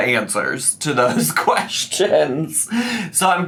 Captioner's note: laughs